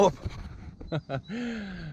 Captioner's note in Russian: смеется